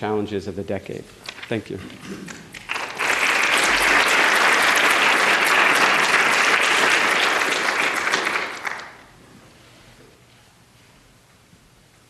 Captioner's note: applause